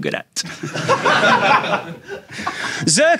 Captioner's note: audience laughing